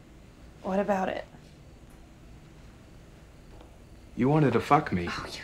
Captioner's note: crickets chirping